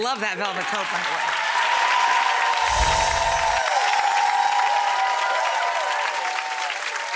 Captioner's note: audience cheers; chimes tinkle